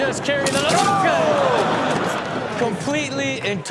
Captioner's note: audience laughs